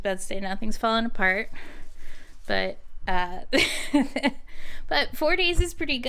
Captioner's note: laughing